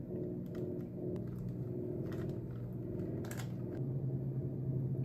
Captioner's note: the sound of the boiler running is really annoying